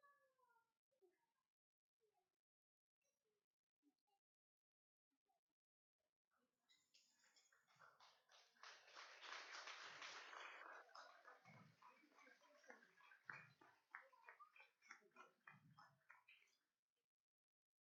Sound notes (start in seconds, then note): 11.6 applauding